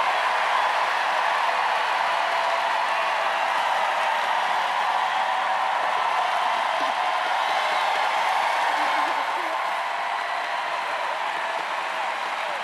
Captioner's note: cheers and applause